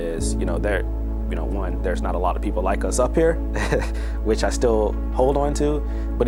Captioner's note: laughs